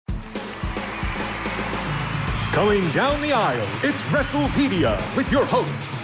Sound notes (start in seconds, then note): 0.0 upbeat rock music; 0.1 crowd cheering